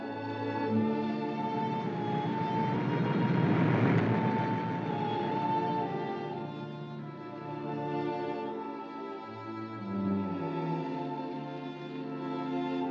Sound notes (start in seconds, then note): 0.1 somber music; 2.6 car rumbles; 2.6 somber music